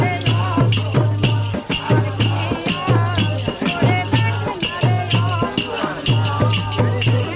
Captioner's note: chanting